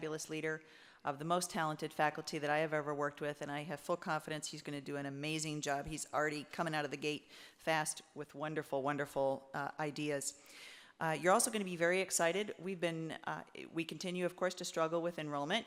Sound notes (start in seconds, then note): none